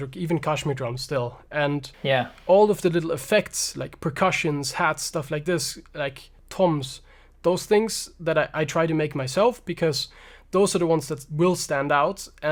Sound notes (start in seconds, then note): none